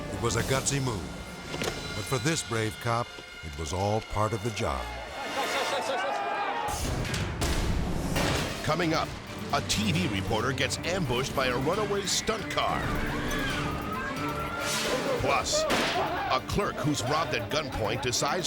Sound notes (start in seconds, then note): 4.8 people shouting; 11.6 people screaming